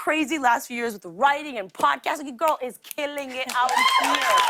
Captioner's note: cheers and applause